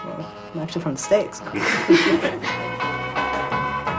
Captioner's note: laughter